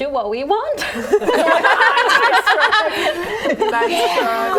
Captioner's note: laughing